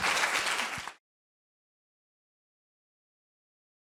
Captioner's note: applause